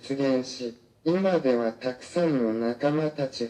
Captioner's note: none